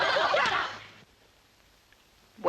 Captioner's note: all laughing